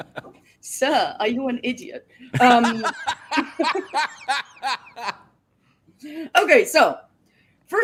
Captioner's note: laughter